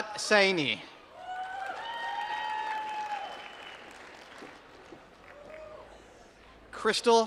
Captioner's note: applause